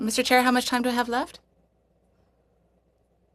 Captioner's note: speaking French